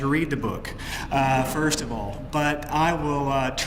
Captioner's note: laugh